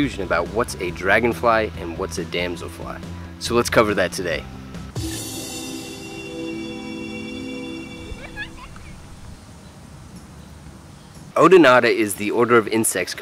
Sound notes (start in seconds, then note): 4.9 theme music; 6.7 nature sounds